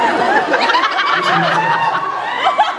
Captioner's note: laughs, scattered cheers; laughs, cheers